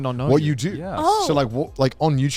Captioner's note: men laugh